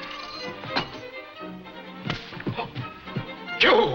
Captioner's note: keys thud